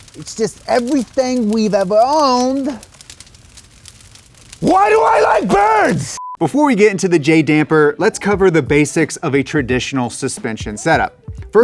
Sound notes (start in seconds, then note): 6.2 screen beeps